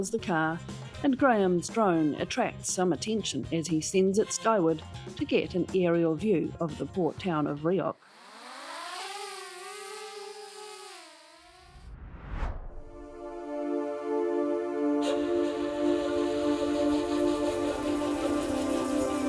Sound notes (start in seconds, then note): 12.6 cinematic music; 15.0 whoosh